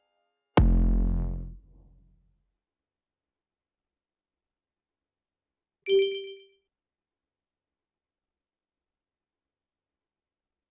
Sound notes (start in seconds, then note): 5.8 ding